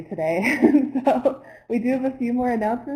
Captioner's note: laughter